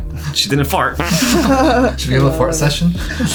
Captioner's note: fart sound